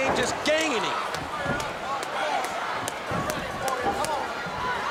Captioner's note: crowd chatter